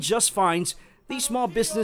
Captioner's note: speaking in spanish